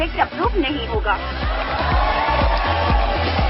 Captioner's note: people cheering